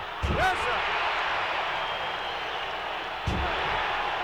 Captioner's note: audience cheering